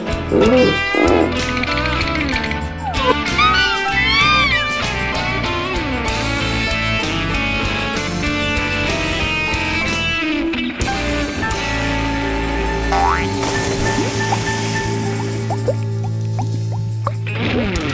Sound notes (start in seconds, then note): 0.1 mechanic groans; 1.8 rattling; 13.0 bouncing; 15.0 suds popping; 15.9 bubbles popping